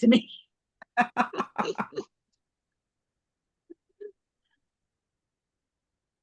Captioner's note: laughter